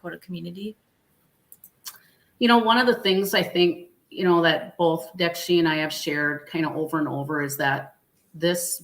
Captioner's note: speaking Dakota